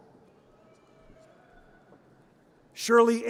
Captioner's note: audience cheers